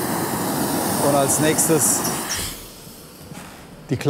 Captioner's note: hissing stops